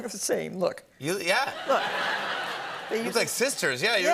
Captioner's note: laughter